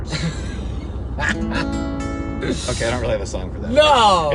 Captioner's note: laughing; guitar strumming